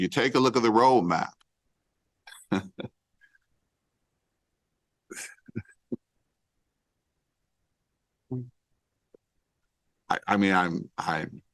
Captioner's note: laughter